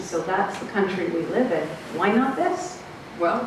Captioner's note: none